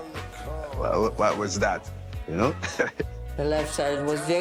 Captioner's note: chuckles